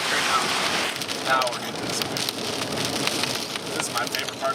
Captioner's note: speaks faintly